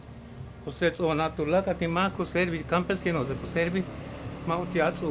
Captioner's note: continues speaking in Mayan